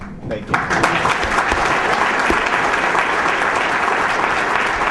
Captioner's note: applause